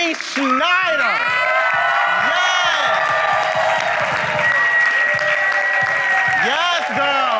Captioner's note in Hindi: वाहवाही; भीड़ की वाहवाही